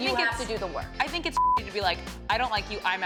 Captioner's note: beep